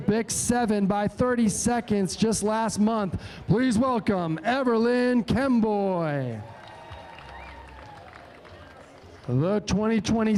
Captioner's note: cheering